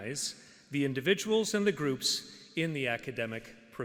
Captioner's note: none